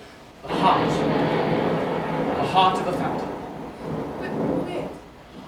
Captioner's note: thunder